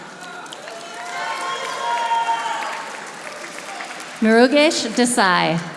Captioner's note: audience applauding